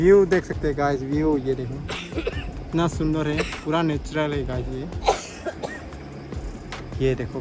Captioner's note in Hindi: खांसने की आवाज़